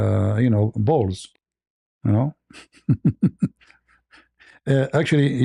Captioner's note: ketawa